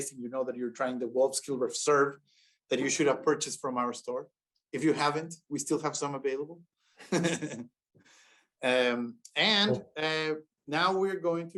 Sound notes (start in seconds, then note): 7.0 laughter